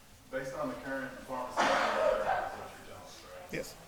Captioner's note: council member sneezes